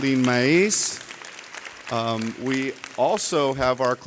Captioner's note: audience clapping